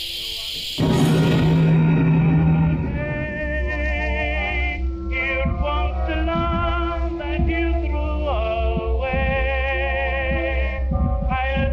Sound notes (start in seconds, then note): 0.8 Clint thudding